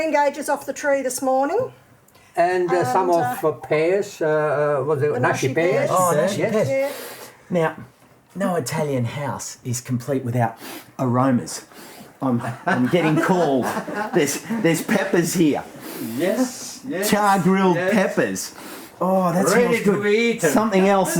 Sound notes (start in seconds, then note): 12.4 laughs